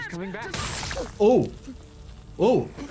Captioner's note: laser whirring